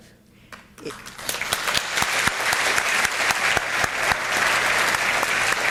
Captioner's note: audience applauding